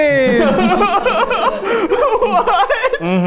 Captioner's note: everyone laughing